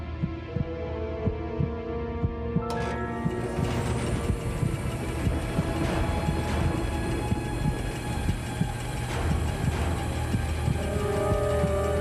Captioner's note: machines starting